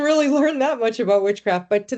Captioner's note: chuckling